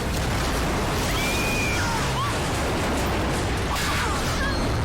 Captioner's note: screaming